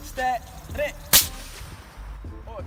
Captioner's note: pff